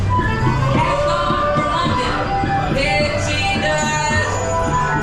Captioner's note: twinkle sound